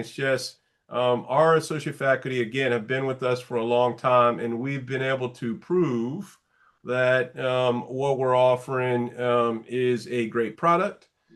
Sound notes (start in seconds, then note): none